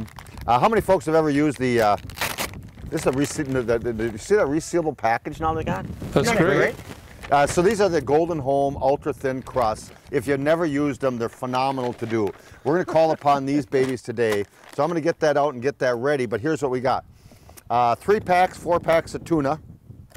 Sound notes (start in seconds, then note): 1.6 bag ripping